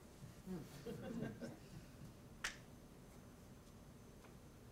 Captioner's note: audience laughing